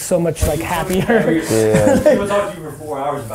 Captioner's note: laughing